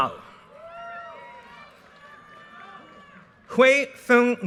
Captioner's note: audience cheers and applause